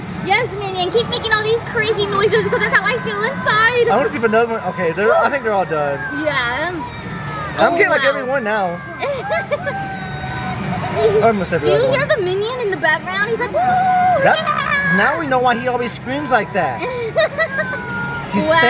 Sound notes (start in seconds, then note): 9.0 laughs; 9.1 minion screaming